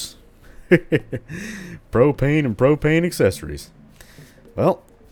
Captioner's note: hank hill voice